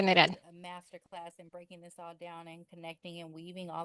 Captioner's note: hablando inglés